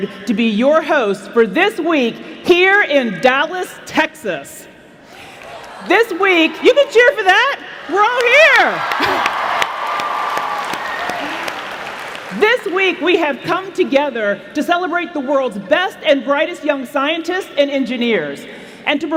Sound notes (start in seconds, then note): 8.7 applause